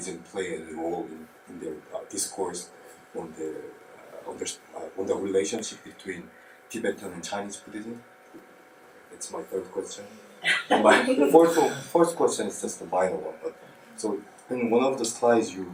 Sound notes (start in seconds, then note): 10.4 audience laughs